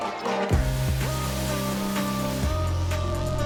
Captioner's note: vents hissing